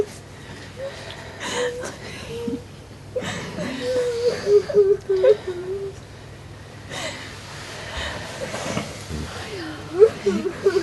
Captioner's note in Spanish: risas y sollozos comienzan a disminuir